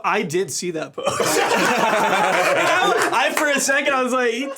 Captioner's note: everyone laughing